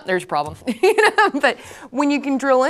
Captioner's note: laughs